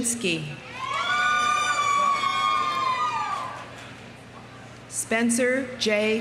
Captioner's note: audience cheering